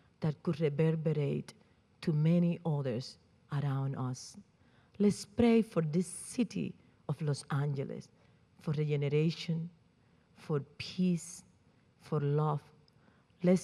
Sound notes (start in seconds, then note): none